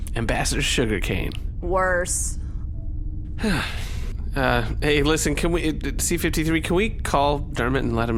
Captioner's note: sighs